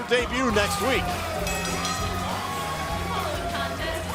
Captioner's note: bell ringing